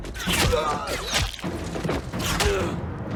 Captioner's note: arrow Thwacks